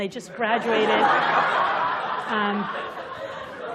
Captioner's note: laughter